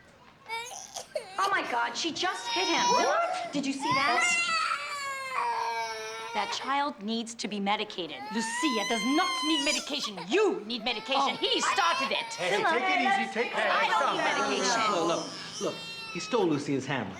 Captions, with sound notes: (Phillip, Jr. crying) - Oh my God, she just hit him! - What?! - Did you see that? That child needs to be medicated. - Lucia does not need medication, you need medication. He started it! - Hey, hey, take it easy, take... (overlapping chatter) - I don't need medication! - Look, look, he stole Lucia's hammer.